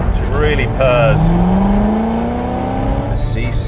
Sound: engine roaring

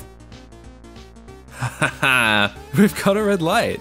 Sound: satisfied laugh

